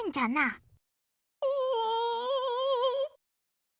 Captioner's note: very strained whimper